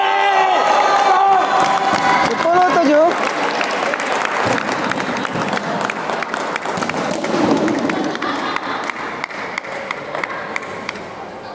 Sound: applause

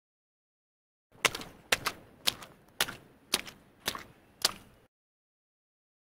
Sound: sound of footsteps

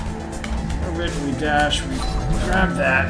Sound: doorbell

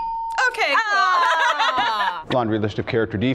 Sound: ding; laughs

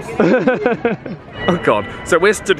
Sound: laughs

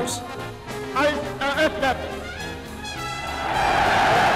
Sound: Hitler speaking in foreign language; crowd cheering

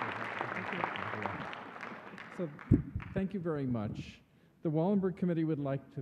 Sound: applause

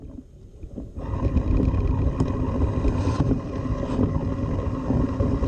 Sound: machinery engine revs

